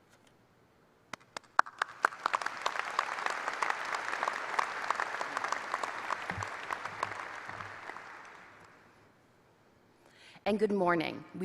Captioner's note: applause